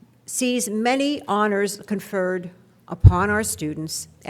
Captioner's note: none